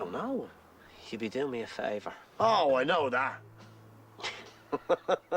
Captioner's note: Risas